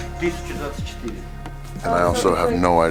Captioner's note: man speaking Russian